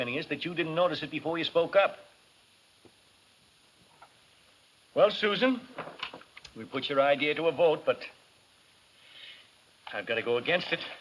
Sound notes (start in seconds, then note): none